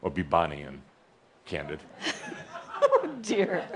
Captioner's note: giggling